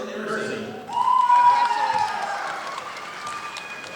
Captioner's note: audience applauding